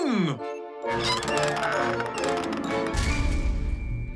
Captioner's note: squeaks